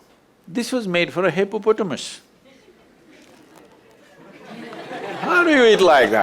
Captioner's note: laughter